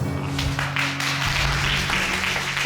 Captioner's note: applause